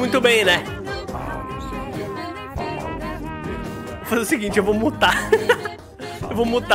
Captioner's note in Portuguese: risos